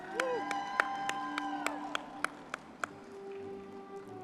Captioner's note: audience clapping and cheering; soft gentle music